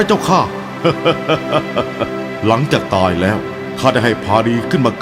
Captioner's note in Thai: หัวเราะ